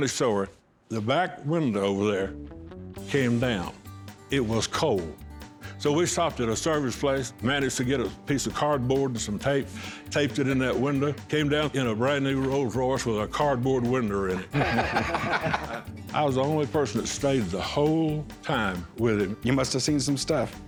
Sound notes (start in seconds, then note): 14.3 laughter